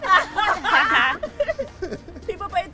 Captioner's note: laughter